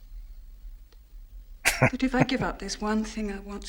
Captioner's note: chuckling